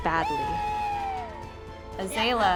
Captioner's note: players cheering